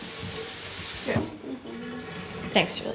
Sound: water flowing

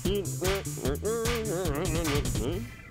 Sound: dance music playing; humming

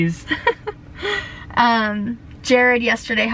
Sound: laughing

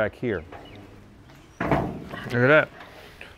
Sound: car hood bangs open

